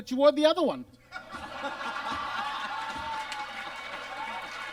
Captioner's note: audience laughs